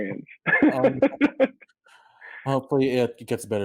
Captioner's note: Wilson laughs